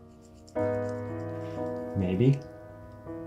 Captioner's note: nail file scraping